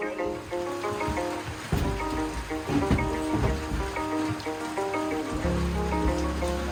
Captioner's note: rain patters; soft music